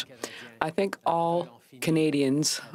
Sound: speaking french

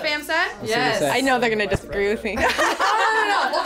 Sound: laughs

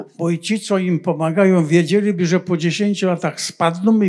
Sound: foreign language

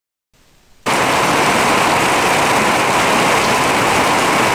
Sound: rain thundering

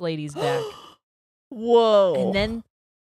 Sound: gasps

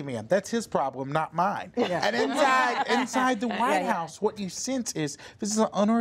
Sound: laughter

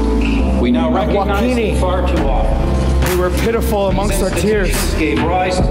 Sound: foreign speaking; overlapping voices speaking

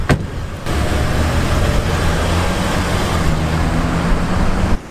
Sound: car driving off

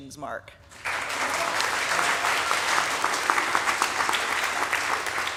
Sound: audience applauding

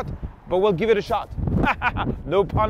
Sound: laughs

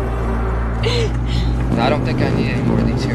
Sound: suspenseful music; Lydia laughing

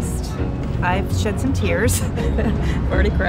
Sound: laughs

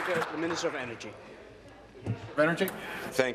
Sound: applause

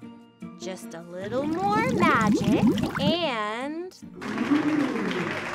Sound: water splashes; water bubbling; audience applauds

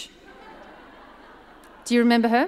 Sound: audience laughs

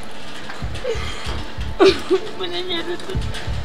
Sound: crying

